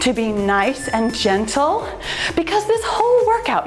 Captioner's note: timer beeps